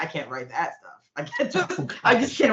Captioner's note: chuckling